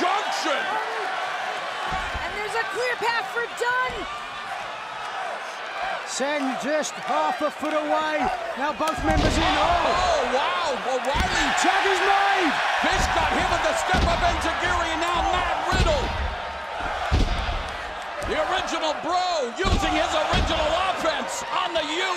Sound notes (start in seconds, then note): 17.4 crowd cheering